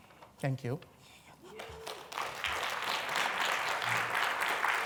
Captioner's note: applause